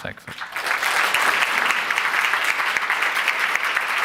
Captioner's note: applause